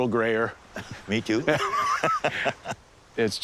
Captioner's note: both laughing